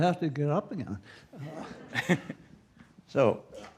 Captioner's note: laughter